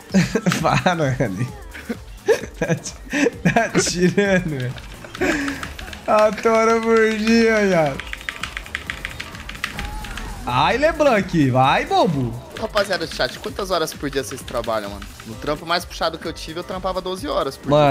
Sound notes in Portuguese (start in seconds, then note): 2.2 risos